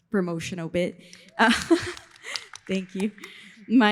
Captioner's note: laughs